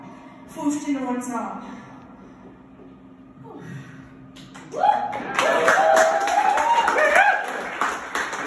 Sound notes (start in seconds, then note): 4.6 cheering, yay!; 4.6 more cheering!!!!; 6.3 all the cheering!!!! AHHHHHH